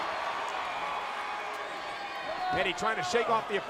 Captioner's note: crowd cheering